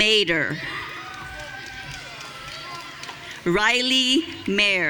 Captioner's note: audience cheering